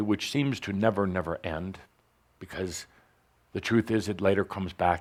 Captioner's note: none